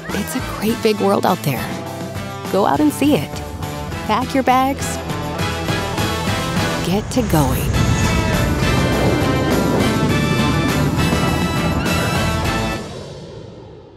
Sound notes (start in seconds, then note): 5.3 upbeat music; 8.2 airplane engine roars; 8.2 upbeat music continues